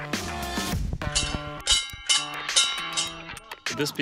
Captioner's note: bell ringing